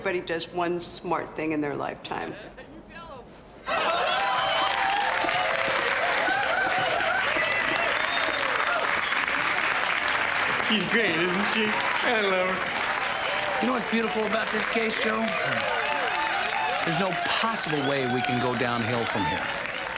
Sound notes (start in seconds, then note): 5.0 cheers and applause